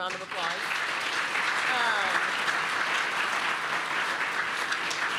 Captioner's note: applause